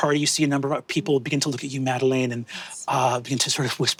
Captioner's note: none